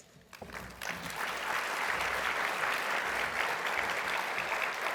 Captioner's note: audience applauding